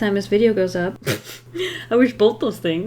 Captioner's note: laughs